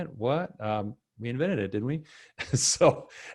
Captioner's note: laughs